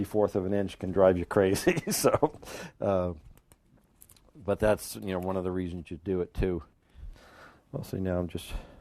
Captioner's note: laughing